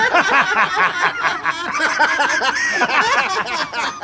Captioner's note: group laughing